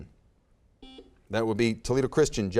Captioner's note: buzzer beeps